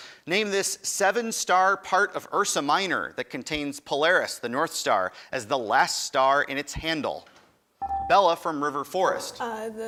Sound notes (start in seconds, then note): 7.8 buzzer dings